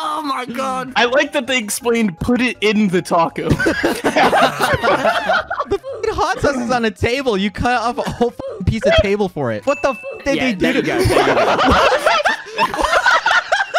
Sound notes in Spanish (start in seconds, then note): 3.4 Risas